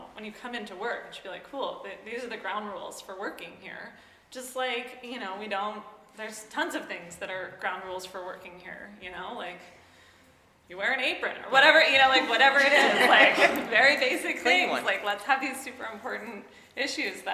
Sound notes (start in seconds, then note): 12.2 audience laughing